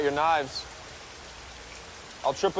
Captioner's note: rain smacking